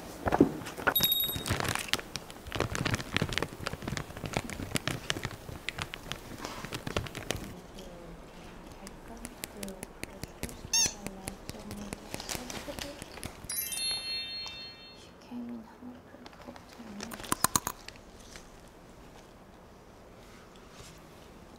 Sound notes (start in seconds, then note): 9.2 tap tap; 17.3 bites